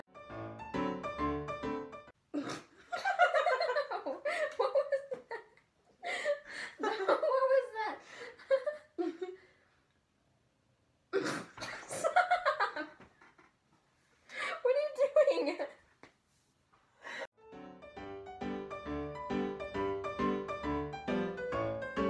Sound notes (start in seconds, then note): 2.4 both laugh; 6.7 both continue laughing; 11.7 both laugh; 15.9 both continue laughing